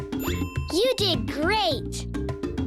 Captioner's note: bell ringing